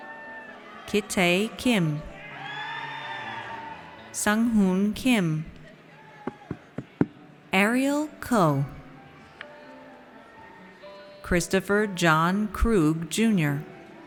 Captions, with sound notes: Kitae Kim. (audience cheers) Sunghoon Kim. Ariel Koh. Christopher John Krug Junior.